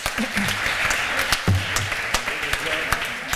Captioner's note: applause